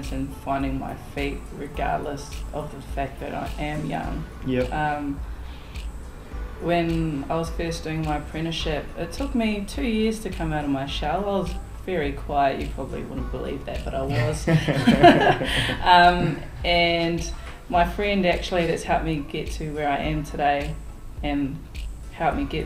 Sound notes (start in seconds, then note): 14.2 laughter